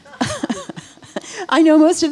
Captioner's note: all laughing